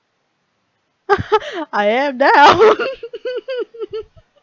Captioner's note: laughs